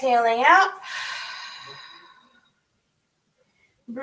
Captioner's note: exhales